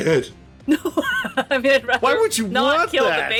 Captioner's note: laughter